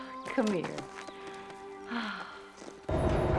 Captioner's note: sighs